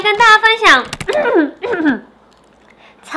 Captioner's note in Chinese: 清喉嚨